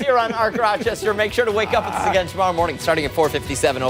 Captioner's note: laughter